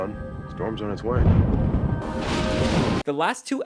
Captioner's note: thunder, rainfall